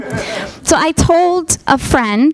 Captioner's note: audience laughing